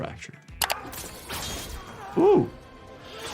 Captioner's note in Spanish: personajes gruñendo